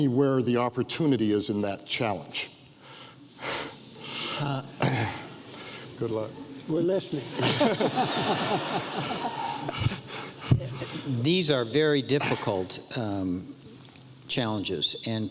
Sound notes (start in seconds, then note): 7.3 audience laughs